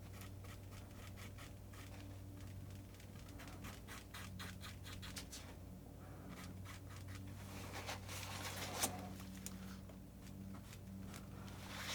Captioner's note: scratching